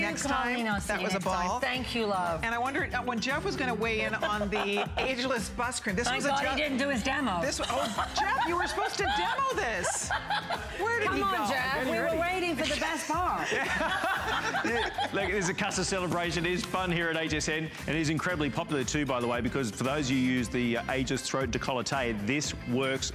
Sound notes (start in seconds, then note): 13.4 laughter